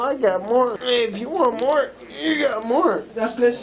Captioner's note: grunts